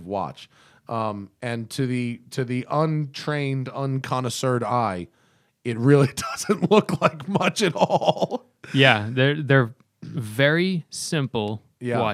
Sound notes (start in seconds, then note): 6.2 laughter